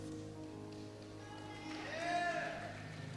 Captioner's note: cheer